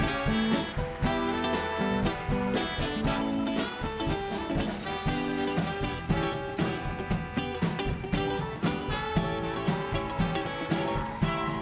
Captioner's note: applause